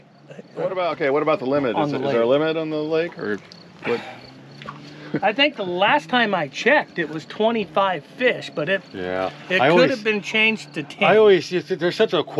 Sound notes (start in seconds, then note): 4.7 chuckling; 4.8 sighing